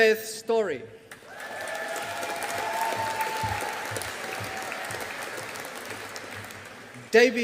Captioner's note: audience applauding